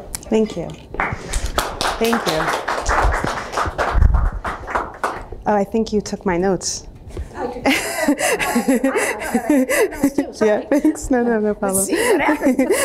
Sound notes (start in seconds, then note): 2.8 applause; 7.6 laughter